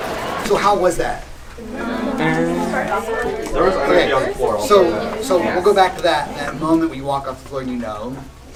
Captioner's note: ambivalent and discontented mutters